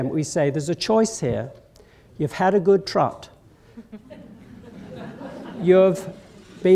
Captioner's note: laughter